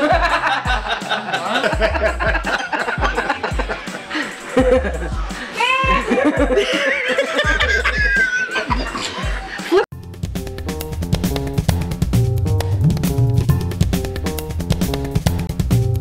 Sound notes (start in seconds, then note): 0.0 all laughing; 5.5 laughs; 5.8 all laughing; 10.2 upbeat funky music